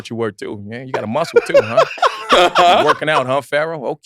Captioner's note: laughs